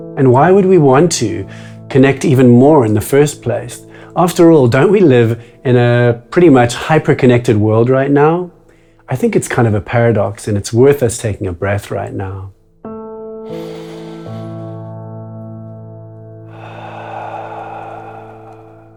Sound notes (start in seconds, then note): 13.6 inhales; 16.4 exhales